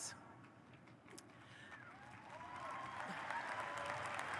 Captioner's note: audience applauds